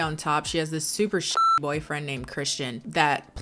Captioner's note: beep